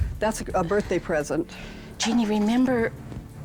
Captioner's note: breathing hard